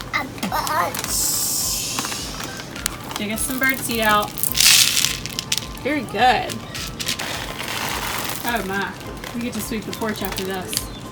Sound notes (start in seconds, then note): 4.7 seed scatters; 7.3 seeds falling